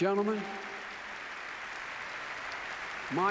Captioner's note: applause